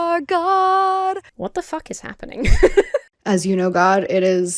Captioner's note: laughs